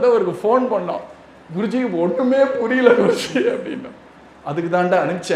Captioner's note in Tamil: தொண்டையைச் சரிசெய்தல்